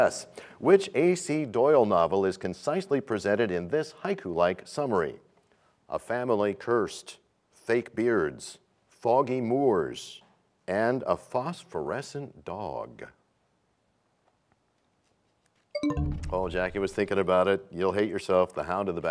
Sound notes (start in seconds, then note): 15.7 bell chimes, time expires